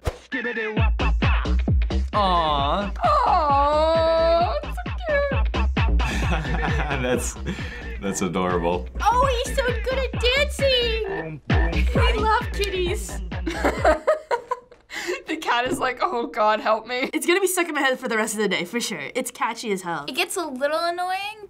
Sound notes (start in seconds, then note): 6.0 chuckles; 13.3 laughs